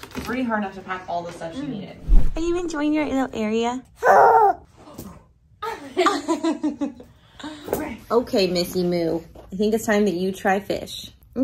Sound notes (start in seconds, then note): 4.0 grunts; 5.6 women laughing